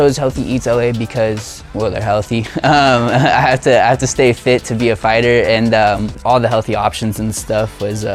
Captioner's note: laughs